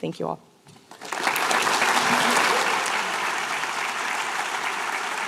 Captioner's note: applause